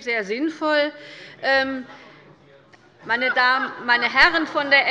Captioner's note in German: Zuruf von der FDP